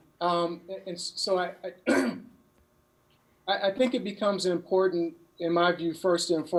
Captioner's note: clears throat